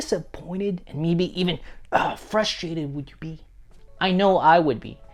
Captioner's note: grunts